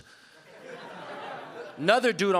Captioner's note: audience laughing